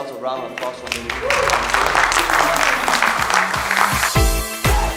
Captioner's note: applause; electronic music